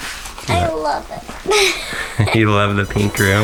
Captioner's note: laughs